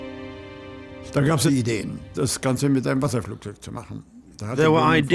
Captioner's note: German spoken audio